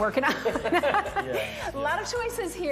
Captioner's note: laughing